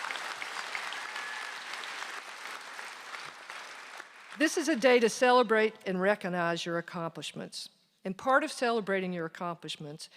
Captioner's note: applause